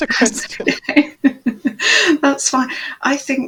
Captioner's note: laughs